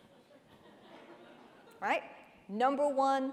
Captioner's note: audience laughing